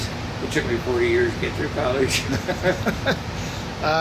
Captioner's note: laughs